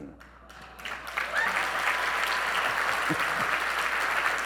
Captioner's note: audience clapping